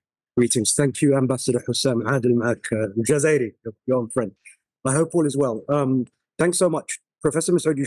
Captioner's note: foreign language 00:57:14